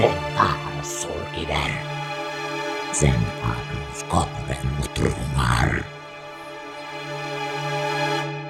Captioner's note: speaks in demonic language